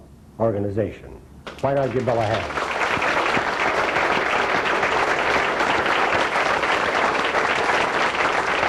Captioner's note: clapping